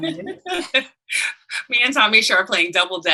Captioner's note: panelists laughing